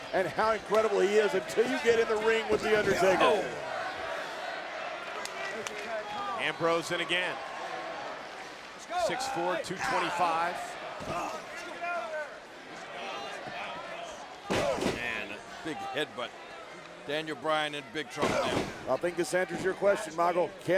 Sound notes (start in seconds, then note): 4.5 audience chanting and clapping; 10.2 audience chanting and clapping